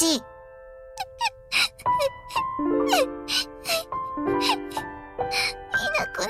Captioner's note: whimper